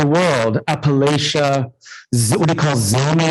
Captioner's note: indistinct conversation